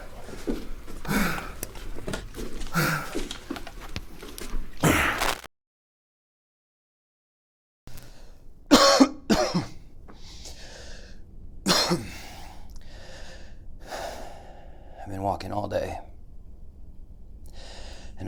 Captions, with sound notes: (screen scrambles) (Pete coughs) (Pete sighs) I've been walking all day,